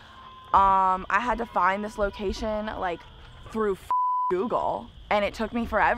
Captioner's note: beeping